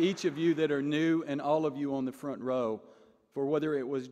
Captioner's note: applause